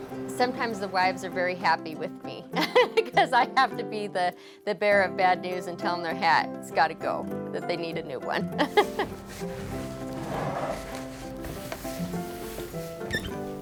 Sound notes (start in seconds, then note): 8.6 laughs